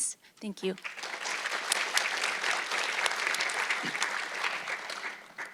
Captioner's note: audience clapping